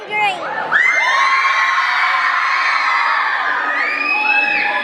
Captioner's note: crowd cheers